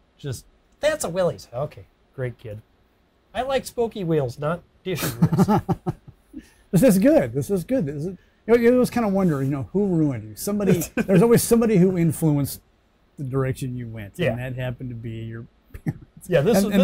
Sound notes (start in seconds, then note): 5.0 laughing